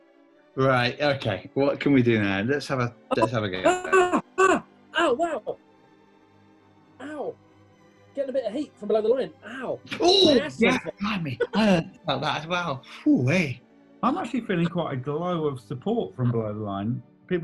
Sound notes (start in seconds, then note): 3.1 cries out in pain